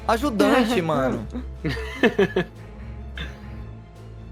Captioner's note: laughter